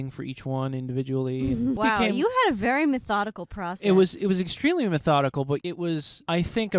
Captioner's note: laughing